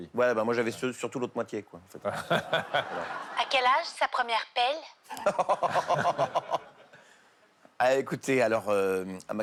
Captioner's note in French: rires